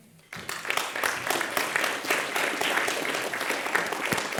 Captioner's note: audience applauds